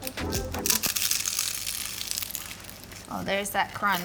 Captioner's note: gentle upbeat music; pie crunches